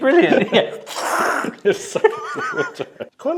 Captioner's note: gasps